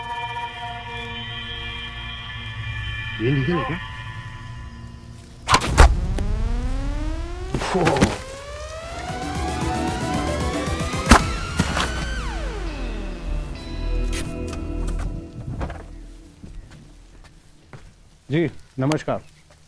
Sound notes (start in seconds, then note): 5.4 Gunshot; 11.0 Gunshot; 13.1 Car halting; 15.4 Car door opens; 15.5 Car door closes